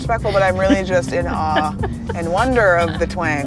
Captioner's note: laughing